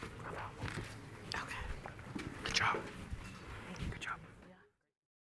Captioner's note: indistinct chatter